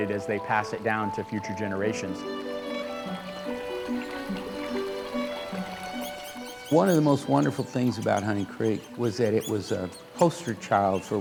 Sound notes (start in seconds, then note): 1.9 water flowing; 2.6 peaceful music